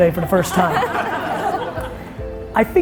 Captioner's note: audience laughing